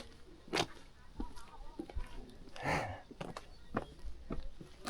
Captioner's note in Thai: เสียงฝีเท้า